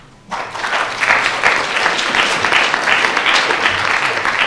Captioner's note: applause